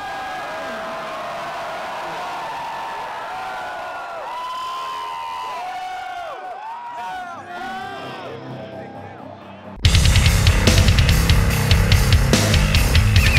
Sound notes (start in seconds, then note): 1.9 audience cheering and applauding; 10.2 heavy metal music